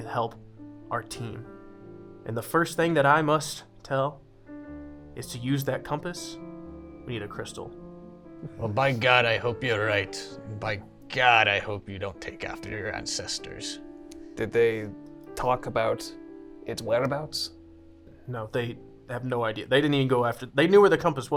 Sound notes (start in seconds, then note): none